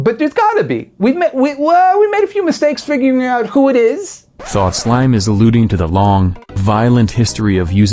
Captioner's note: robot voice